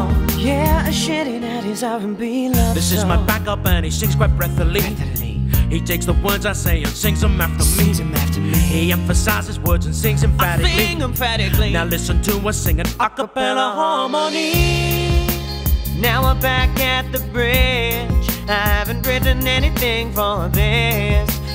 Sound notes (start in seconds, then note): 4.7 breathilly; 10.6 i sing emphatically